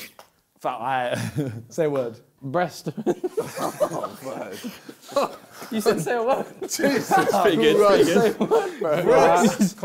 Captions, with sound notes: - Say a word. - Breast. (both laughing) - He said say a word. - It's pretty good, it's pretty good.